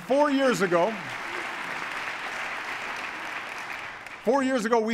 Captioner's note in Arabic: تصفيق